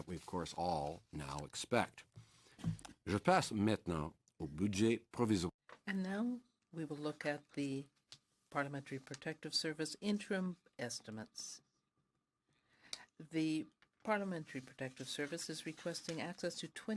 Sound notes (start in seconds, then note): 8.1 speaking french